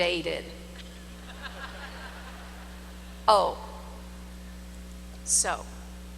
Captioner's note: laughter